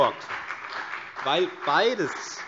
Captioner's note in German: Beifall CDU